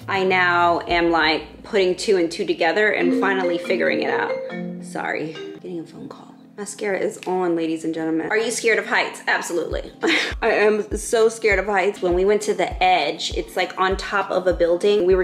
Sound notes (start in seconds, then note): 3.1 phone ringing; 10.0 chuckles